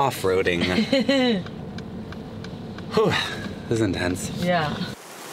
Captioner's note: laughing